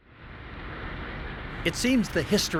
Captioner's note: beeping sound